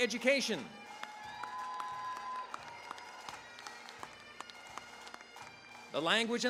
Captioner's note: cheering, applause